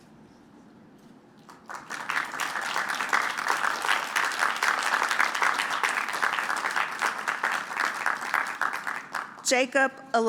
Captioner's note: applause